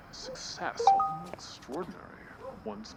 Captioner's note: instant message beep